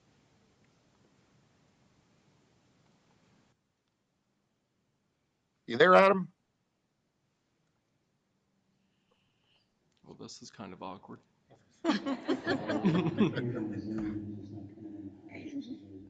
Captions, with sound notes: You there, Adam? - Well, this is kind of awkward. (all laughing)